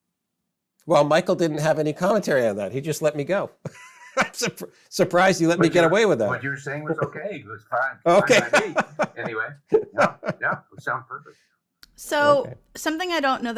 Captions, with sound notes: Well, Michael didn't have any commentary on that. He just let me go (softly laughs) I'm surprised he let me get away with that. - What you're saying was okay, your thought, fine be me, anyway - Okay. (loudly laughs) - Yeah, yeah, it sounded perfect. - So something I don't know